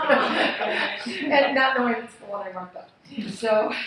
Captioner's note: laughing